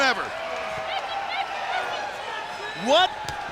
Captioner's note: crowd cheering